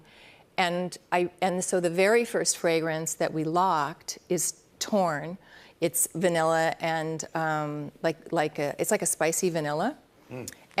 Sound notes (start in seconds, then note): none